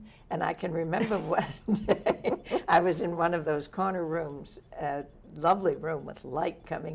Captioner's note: laughs